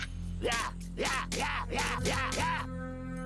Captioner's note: growling